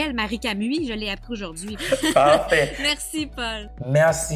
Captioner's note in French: rires